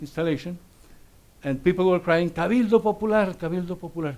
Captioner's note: speaks Spanish